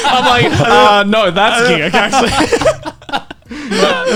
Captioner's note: laughing